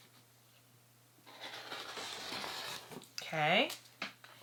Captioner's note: roller cutter rolling